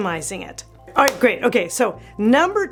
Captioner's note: hands clapping